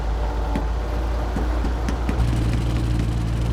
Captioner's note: knocking